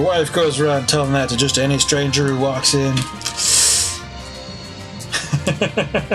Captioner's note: sucks teeth; laughs